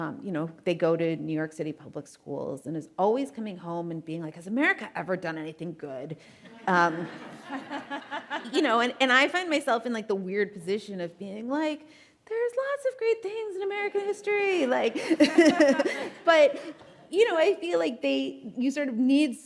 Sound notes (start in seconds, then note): 6.6 laughs; 6.7 audience laughing; 14.6 laughs; 14.9 audience laughing